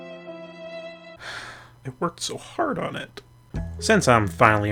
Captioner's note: sad Violin Music; sigh